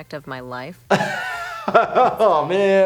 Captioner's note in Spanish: se ríe